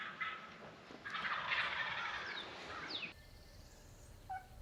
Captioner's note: turkeys gobbling